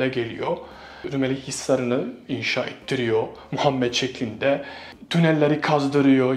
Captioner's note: in Arabic